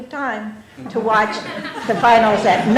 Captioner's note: laughter